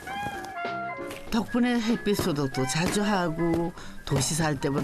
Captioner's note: whack! Whack!